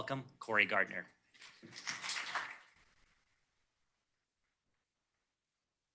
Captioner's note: applause